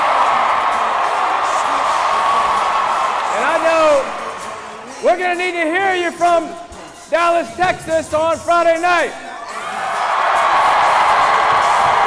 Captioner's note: cheering and applause